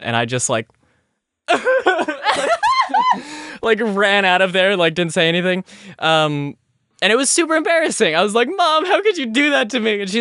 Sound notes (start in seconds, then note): 1.6 starts crying